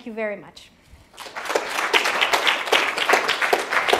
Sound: applause

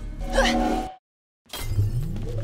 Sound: time freeze sound

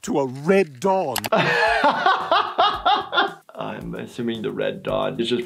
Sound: laughs

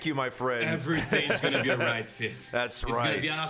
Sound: laughs; deep voice

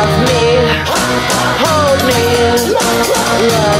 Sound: hah hah

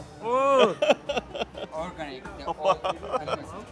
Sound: laughs

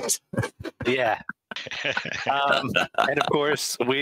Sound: laughing

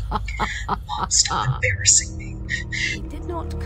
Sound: laughter; laughter

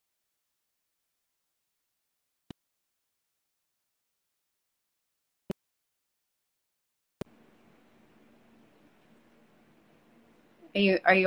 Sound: audio freezes

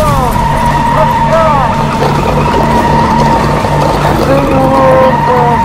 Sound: tires screeching

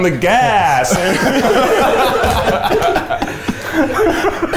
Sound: all laughing

